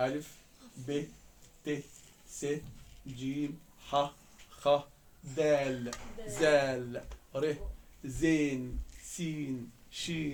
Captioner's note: with Egyptian Arabic pronunciation